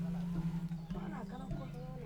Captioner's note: indistinct chatter